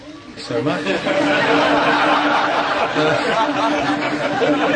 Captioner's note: audience laughing